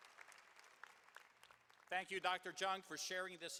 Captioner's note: cheering and applause